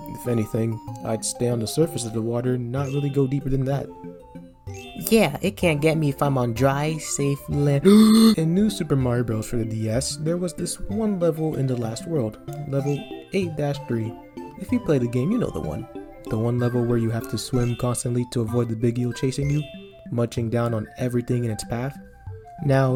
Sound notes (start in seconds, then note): 7.8 gasp!